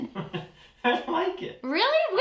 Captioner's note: laughing